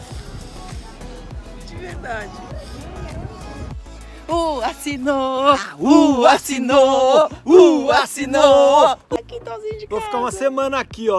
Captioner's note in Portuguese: Chorando de felicidade